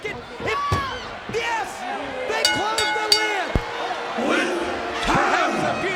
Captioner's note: bell rings